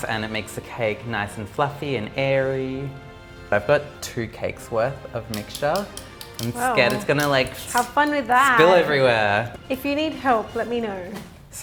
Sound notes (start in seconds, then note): none